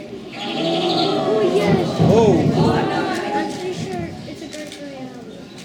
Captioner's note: crowd says "ooo"